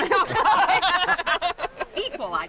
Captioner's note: women laugh